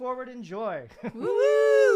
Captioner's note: both wooing